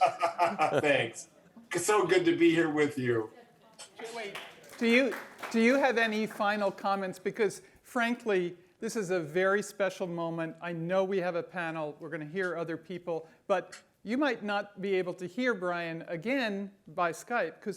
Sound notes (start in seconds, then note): 0.0 laughs; 3.8 audience applauds